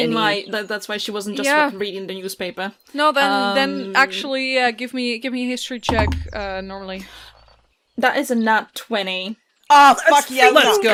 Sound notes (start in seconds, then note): 7.0 dice thunks